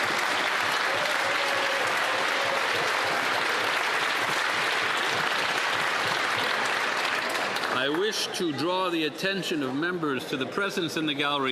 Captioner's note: applause